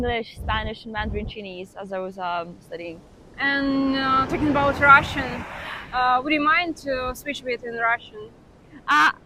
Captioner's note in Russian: мандаринский диалект